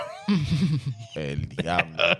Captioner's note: laughing